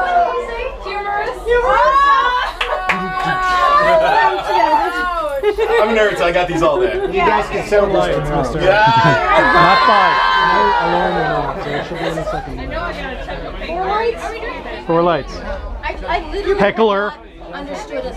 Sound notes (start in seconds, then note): 4.1 party chatter